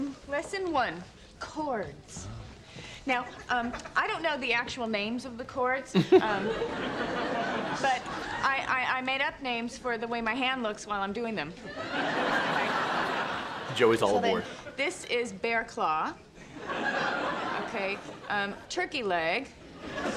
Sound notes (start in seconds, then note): 5.9 audience laughs; 6.0 laughs; 11.7 audience laughs; 16.4 audience laughs; 19.8 audience laughs